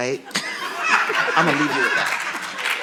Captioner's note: audience laughing